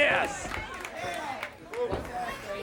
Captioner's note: crowd cheering